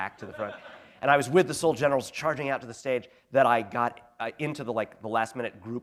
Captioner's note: laughter